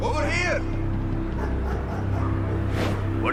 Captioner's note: dogs barking